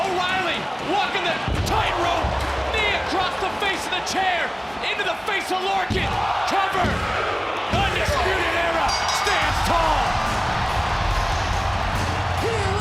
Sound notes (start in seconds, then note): 6.0 crowd counts; 8.8 bell dings; 10.2 crowd cheers; 10.2 upbeat music